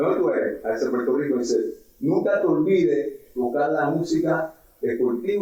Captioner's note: speaking in foreign language